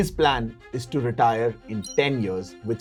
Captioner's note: chime